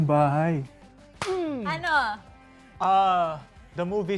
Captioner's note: claps